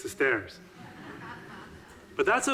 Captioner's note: audiences laughing